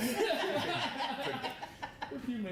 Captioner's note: laughter